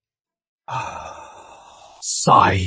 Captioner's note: sighs